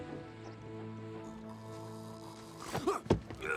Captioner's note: snoring